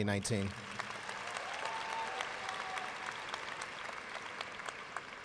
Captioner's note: students cheering and applauding